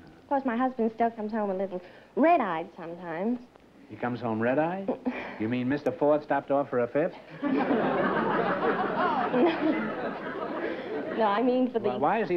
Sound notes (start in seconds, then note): 7.2 laughter